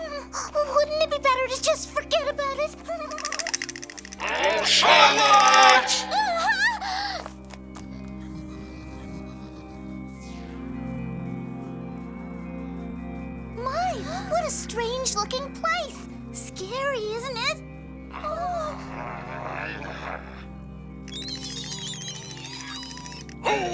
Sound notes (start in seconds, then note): 2.9 chattering; 6.1 exclaiming; 8.7 eery music; 18.1 growling; 21.0 mice squeak and chatter